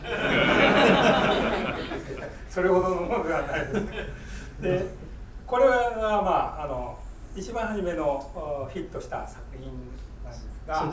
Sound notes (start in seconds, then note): 0.0 students laughing; 2.6 speaking in foreign language